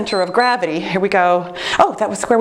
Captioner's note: timer beeps